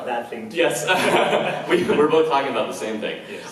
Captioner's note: laughs